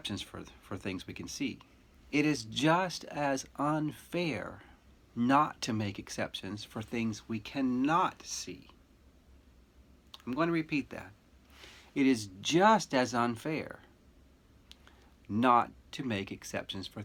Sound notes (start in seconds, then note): none